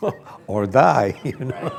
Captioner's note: laughter with audience